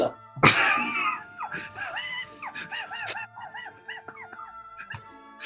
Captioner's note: sniggers